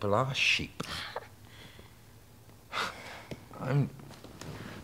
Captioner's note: Caroline scoffing